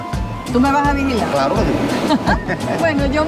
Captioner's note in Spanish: laugh